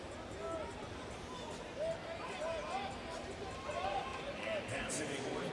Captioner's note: crowd chattering and cheering